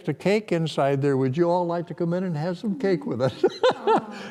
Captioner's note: laughter